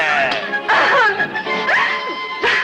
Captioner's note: groans